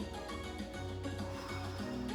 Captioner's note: upbeat music; breaths; upbeat music